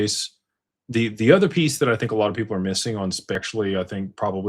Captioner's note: none